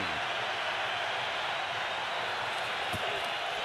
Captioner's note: crowd cheering